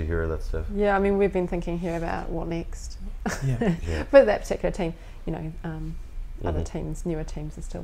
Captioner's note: laughs